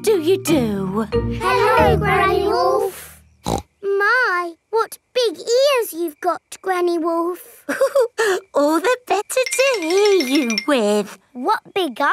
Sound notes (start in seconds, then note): 3.4 snorts; 7.7 chuckles